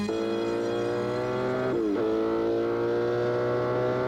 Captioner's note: car engine rumbling